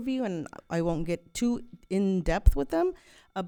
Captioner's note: none